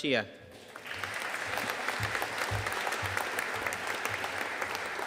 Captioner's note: audience applauding